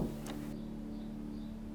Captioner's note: door closes softly